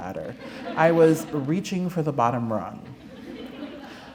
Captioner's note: laughter